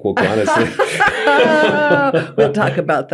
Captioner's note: both laughing